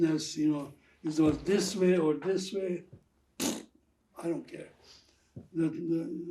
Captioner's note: throat sound